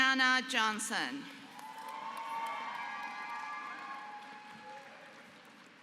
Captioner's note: applause